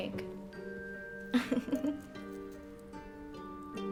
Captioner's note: giggles